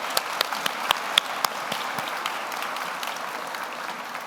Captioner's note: everyone applauds